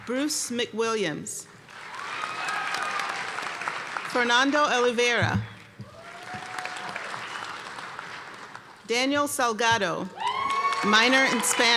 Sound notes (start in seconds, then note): 1.7 cheers and applause; 5.8 cheers and applause